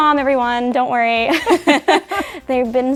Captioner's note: laughing